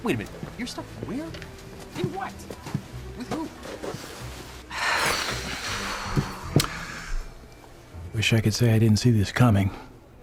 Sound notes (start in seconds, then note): 4.7 sighs heavily